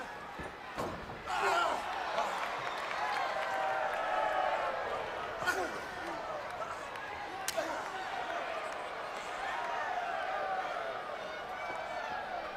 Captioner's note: crowd cheering